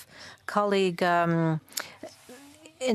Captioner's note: speaking French